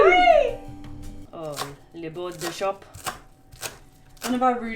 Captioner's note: fake french accent